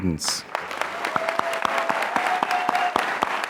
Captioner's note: applause